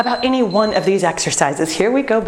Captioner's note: beeping